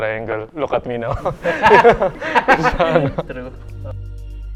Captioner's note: laughs